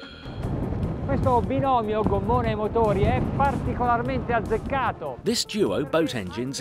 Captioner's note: speaking foreign language